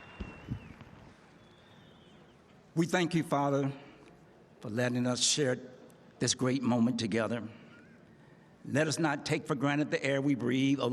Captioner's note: cheering; applause